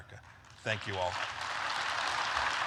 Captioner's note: applause